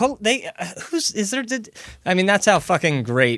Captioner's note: surprised stuttering